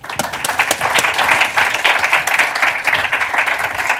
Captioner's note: applause